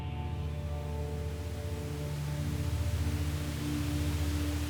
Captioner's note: static scratching